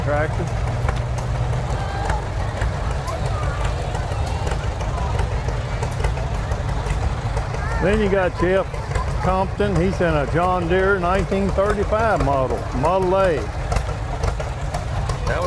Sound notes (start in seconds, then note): 2.1 people chatter; 2.1 revving continues